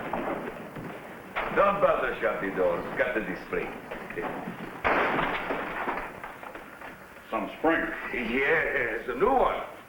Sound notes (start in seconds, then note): 4.8 door slamming